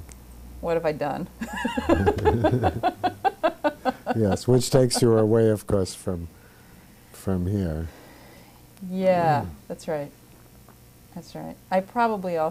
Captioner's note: laughts